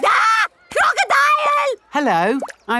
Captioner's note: screams